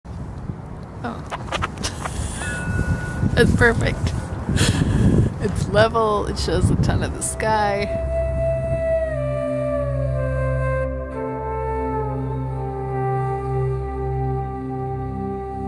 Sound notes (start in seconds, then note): 1.2 laughing; 8.9 relaxing music